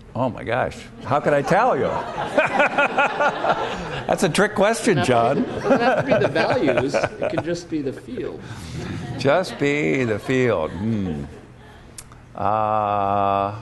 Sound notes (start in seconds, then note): 1.5 laughter